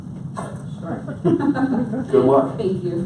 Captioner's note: laughs